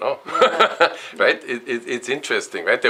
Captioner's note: laughs